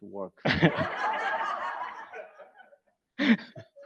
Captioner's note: audience laughs